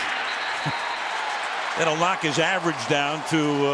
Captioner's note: whistle blows